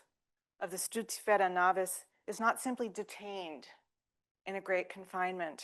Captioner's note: speaking French